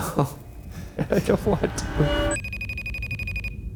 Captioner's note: laughing